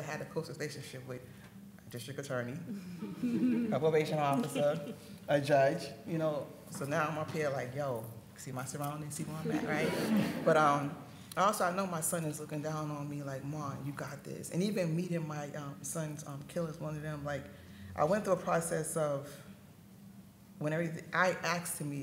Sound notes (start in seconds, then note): 9.4 audience laughing